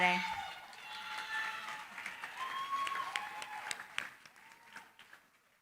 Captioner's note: cheering, applause